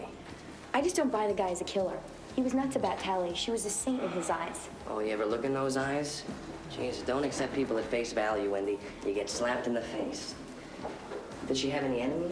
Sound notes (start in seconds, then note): none